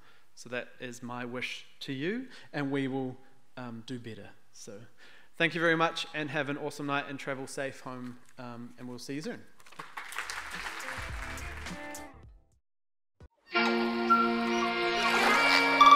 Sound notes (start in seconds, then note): 9.6 audience applauding; 13.4 calm music